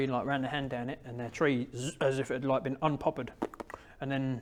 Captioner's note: pop pop pop